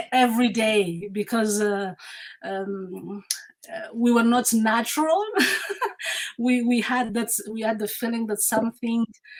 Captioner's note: laughs